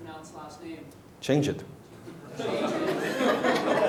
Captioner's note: laughing